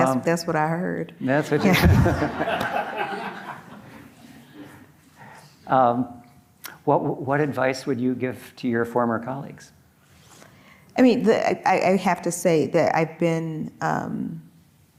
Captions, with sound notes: - That's that's what I heard. - That's what you heard? - Yeah. (audience laughing) Well, what advice would you give to your former colleagues? - I mean, I have to say that I've been so heartened